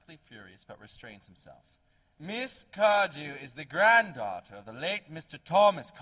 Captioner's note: in a clear, cold voice